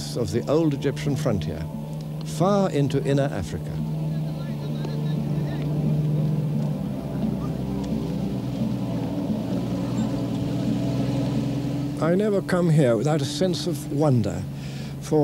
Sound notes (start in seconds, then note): 3.9 non-english speech